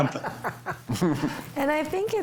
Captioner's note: group laughs